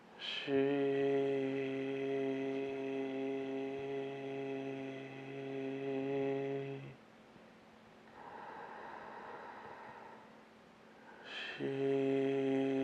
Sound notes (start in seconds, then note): 8.1 inhaling